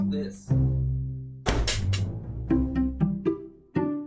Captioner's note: gunshot